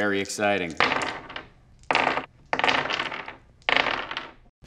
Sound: dice rolls

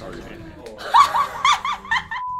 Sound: laughs

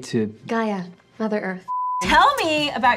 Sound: blooper beeps

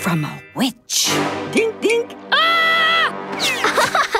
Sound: screams; laughing

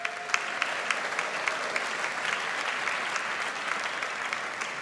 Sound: audience applauds

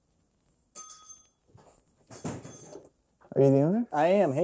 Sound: door bell jingling

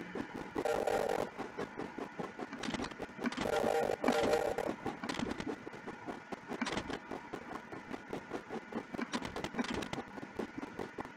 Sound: clicks repeatedly; sound of locomotive; clicks repeatedly

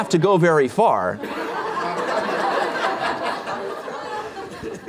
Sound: laughter

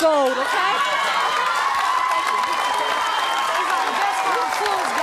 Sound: audience cheering

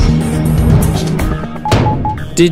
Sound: bang

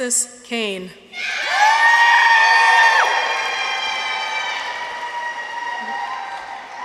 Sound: people cheer; audience applauds

